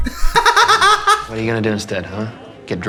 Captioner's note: laughs